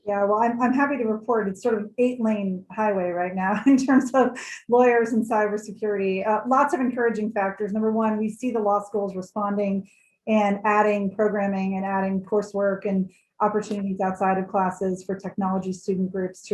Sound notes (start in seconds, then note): 3.5 laughs